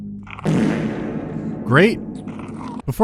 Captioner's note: bowel movement